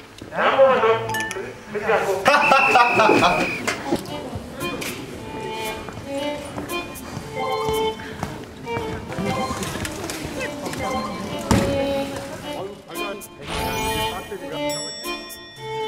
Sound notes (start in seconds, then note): 2.2 laughing